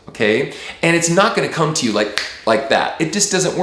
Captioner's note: snap